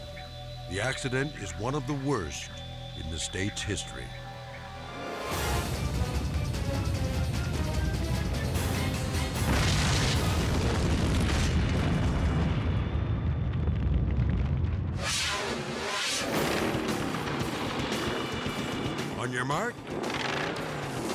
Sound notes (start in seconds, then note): 3.8 edgy dramatic music; 3.8 fire roaring; 9.0 fire exploding; 10.0 dramatic music; 14.9 dramatic air whoosh; 17.6 exciting music; 17.6 vehicle revving; 19.8 vehicles revving